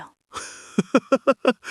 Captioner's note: chuckles